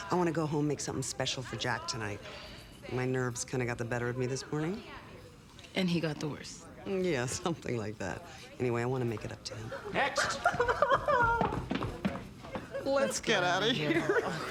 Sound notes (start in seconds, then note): 10.8 woman sobbing